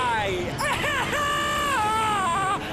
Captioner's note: screaming